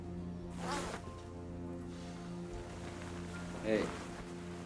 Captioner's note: zipper unzips